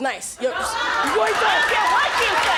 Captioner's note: audience cheers